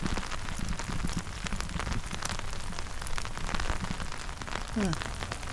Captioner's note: rain